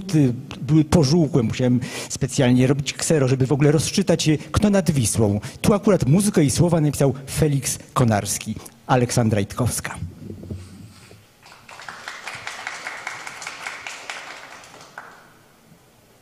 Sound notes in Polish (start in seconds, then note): 11.4 oklaski